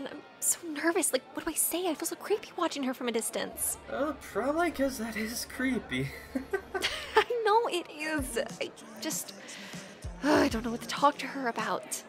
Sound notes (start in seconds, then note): 6.0 laughs